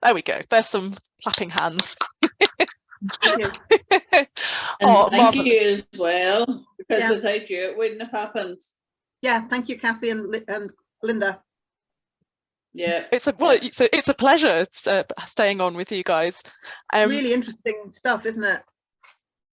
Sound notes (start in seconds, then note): 4.2 applauding